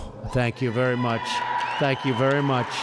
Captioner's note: applause